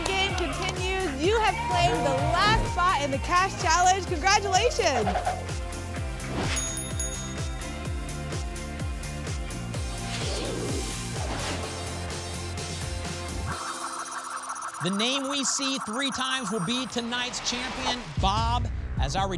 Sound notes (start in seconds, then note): 6.5 ding, ding, ding; 10.0 whoosh; 13.4 spinning sounds